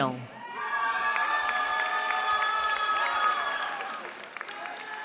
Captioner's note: cheering